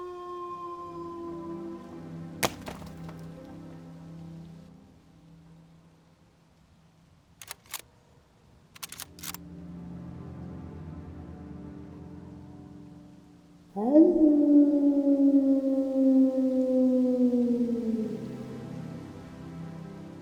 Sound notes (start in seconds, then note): 2.4 rock clattering; 7.4 rifle clacking; 13.7 wolf howling; 17.5 tense music